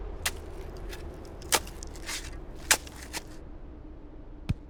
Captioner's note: shovel digging